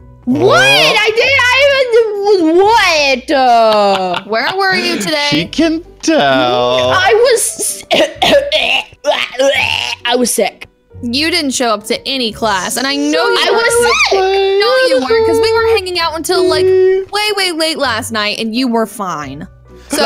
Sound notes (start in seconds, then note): 7.6 coughing